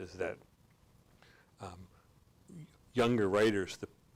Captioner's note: none